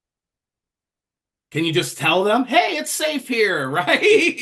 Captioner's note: laugh